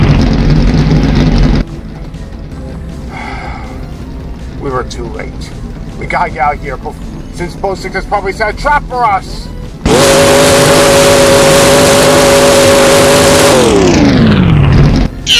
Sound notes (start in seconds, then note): 3.0 sighs